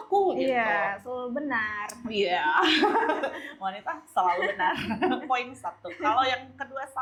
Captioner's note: laughs